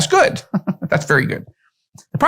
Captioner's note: laughs